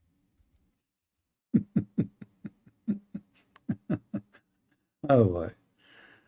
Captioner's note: Ketawa